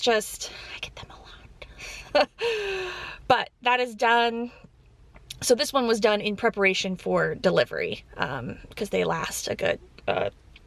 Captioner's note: chuckle